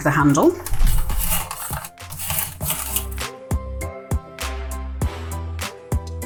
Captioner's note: crisp slicing